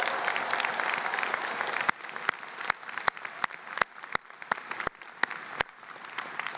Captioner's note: applause